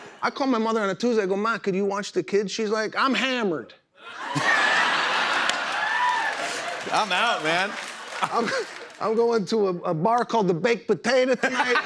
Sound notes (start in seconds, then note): 4.0 laughter and applause; 11.3 laughter